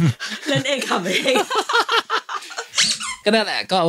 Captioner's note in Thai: หัวเราะ